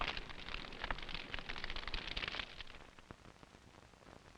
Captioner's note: fire crackling; static crackling